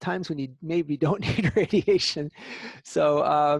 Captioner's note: laughter